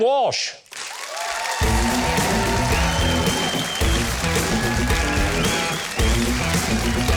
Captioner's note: audience cheers; upbeat music